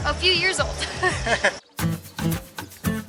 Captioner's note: laughter